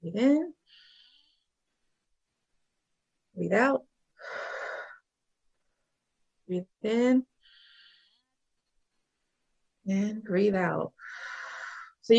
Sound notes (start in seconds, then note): 4.2 exhales; 4.2 inhales; 8.5 inhales; 11.0 exhales